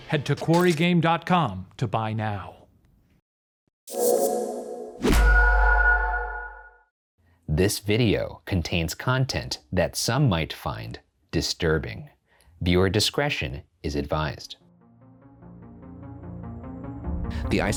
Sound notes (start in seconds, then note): 4.1 the eerie wails of an unseen banshee shrieking in the woods; 14.8 tense music